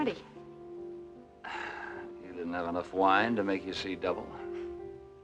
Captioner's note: Griff Exhales